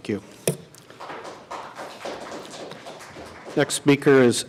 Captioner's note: applause